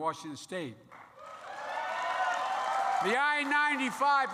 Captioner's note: applause